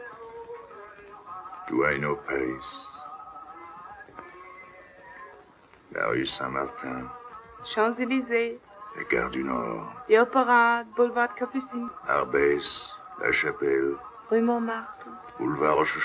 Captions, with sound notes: -Do I know Paris? [French] -Champs-Elysees. -[French] -The Opera, Boulevard Capucines. -[French] -[French]